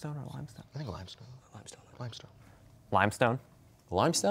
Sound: quietly

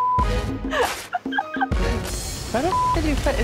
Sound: woman laughs

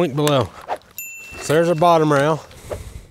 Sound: icon whooshes and bell rings

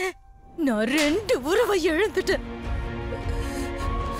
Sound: slapping

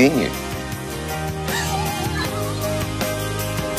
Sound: laughs

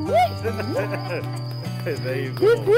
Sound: laughing

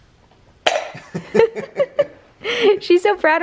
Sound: laughing

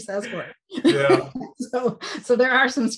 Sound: laughs

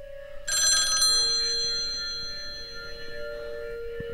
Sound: phone ringing

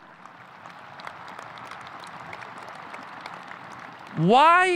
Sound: audience applauding

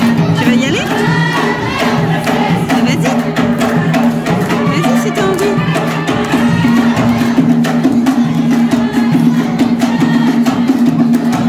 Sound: applause

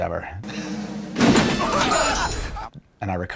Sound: crash

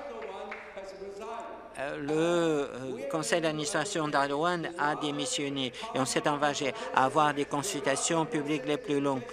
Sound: some applause

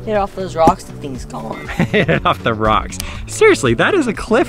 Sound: laughs

